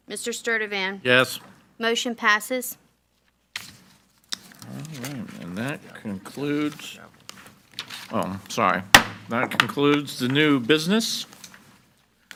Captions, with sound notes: - Mr. Sturdivant? - Yes. - Motion passes. - All right, and that concludes. (Board Members chattering) Oh, sorry. (gavel bangs) That concludes the new business.